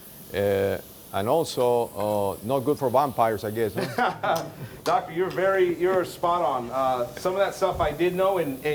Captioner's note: laughs